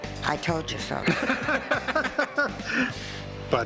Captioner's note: laughter